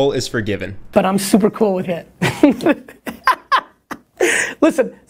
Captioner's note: laughs